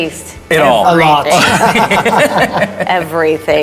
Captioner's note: laughing